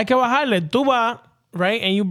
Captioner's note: speaking In Foreign Language